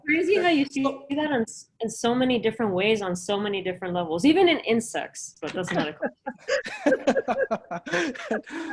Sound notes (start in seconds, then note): 5.6 laughing